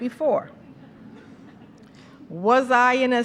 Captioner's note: laughter